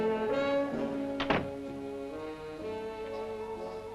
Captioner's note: door closes; slow jazz music